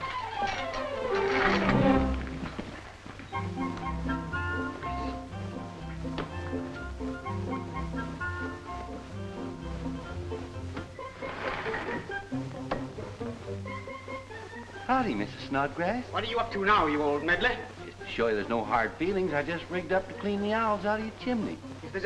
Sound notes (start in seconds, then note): 0.2 suspenseful music; 3.5 upbeat music; 10.6 window sliding